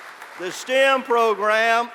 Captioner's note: applause